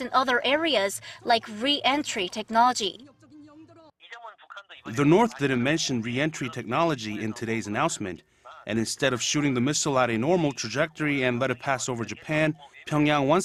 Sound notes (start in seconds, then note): 3.0 Korean